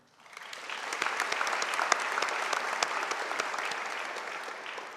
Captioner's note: audience applauding